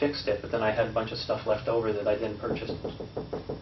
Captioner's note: knock on the door